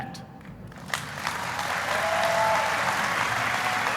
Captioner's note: applauding